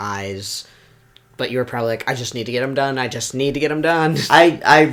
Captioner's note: laughs